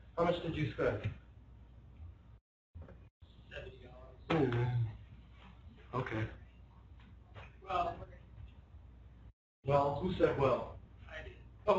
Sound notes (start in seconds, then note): 4.3 groaning noise